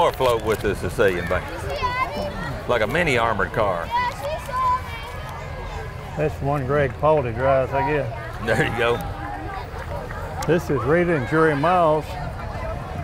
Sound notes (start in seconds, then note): 5.2 chattering continue